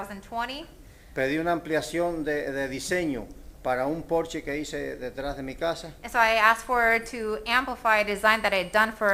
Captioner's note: speaking spanish